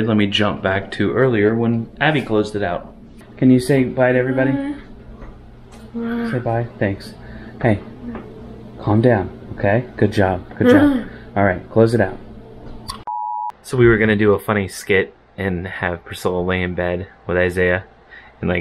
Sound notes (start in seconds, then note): 5.9 moans; 10.6 moans; 13.1 electronic beeping